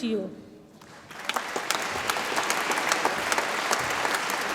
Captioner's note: audience applauds